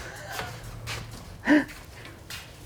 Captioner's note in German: Lachend